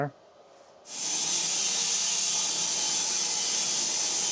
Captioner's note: saw whirring